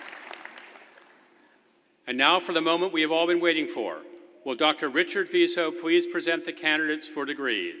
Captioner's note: applause